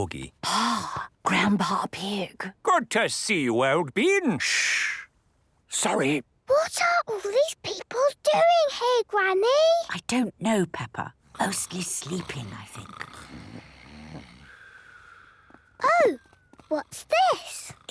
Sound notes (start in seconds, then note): 5.1 whispering; 6.5 quietly; 13.6 snoring